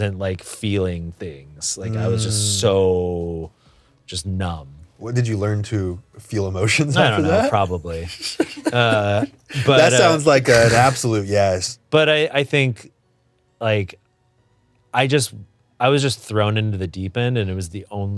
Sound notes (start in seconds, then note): 9.6 both snicker